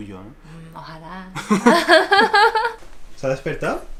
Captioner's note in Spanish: Risas